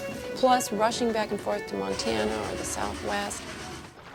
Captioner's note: train chugging